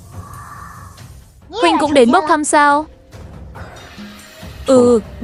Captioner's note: groaning